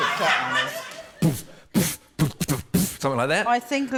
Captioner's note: laughter; beatboxes